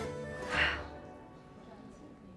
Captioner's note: sighs